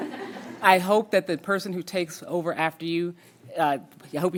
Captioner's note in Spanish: risas